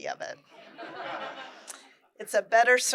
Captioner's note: laughter